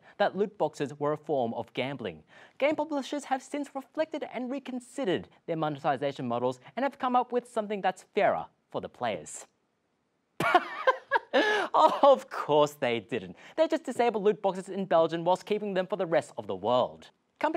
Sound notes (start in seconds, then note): 10.4 laughs